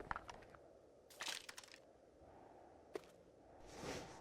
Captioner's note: wind blowing